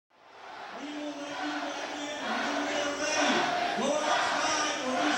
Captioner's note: chanting